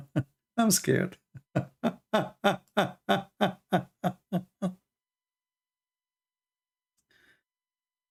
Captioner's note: Ketawa